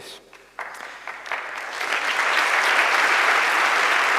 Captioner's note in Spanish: Aplausos